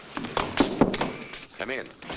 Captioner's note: knocking at door